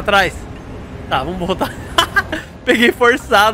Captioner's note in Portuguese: risos